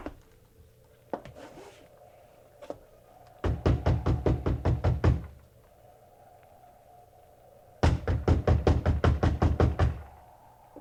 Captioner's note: knocking